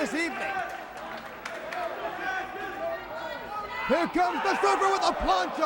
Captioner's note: crowd chatter